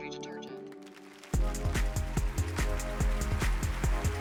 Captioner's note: applause